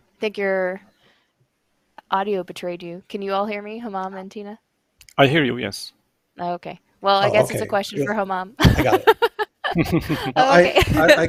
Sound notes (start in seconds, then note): 8.6 laughter